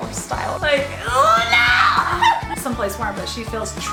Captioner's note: laughs